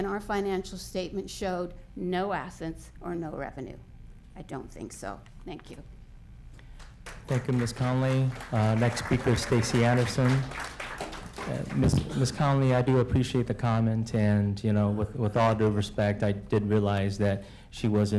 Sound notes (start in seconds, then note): 10.8 applause